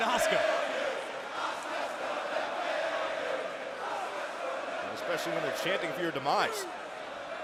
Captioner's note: crowd cheering